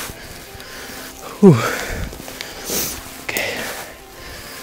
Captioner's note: exhales deeply